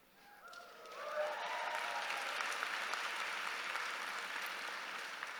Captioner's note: audience cheering